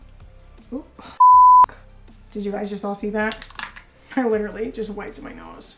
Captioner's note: beep